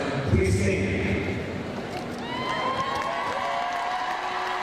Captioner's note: crowd cheering